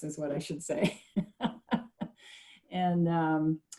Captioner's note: laughing